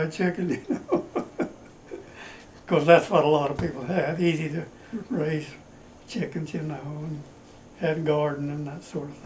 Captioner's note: laughs